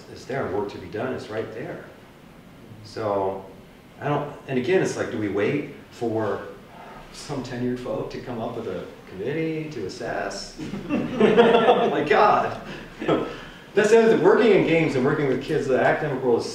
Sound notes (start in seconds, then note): 10.6 audience laughter all around